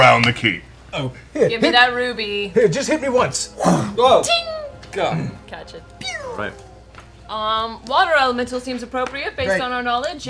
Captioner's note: ting